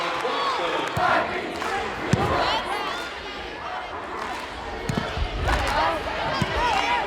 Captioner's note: players yelling; crowd chanting